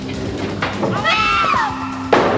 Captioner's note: screams